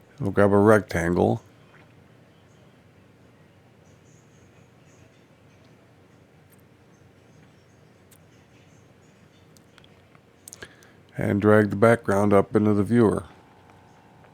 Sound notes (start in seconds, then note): 0.0 silence; 2.8 silence